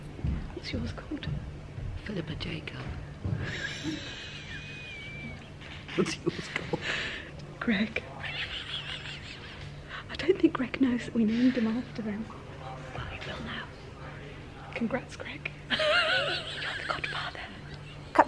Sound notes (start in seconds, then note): 3.4 they laugh; 8.2 laughs; 15.7 laughs